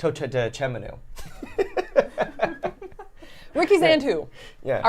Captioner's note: laughing